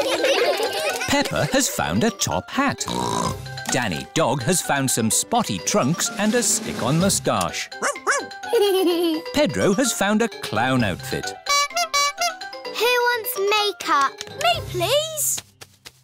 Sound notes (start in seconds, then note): 0.0 all giggle; 2.8 snorts; 8.4 giggles; 11.4 toots horn